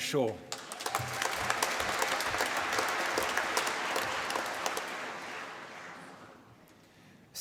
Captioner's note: applause